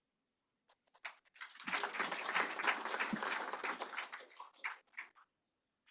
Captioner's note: applause